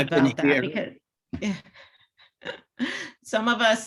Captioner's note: chuckles